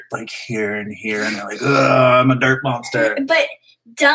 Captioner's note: groan